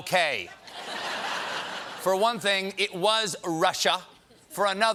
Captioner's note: laughter